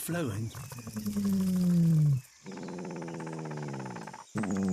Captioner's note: deep, resonant rumbling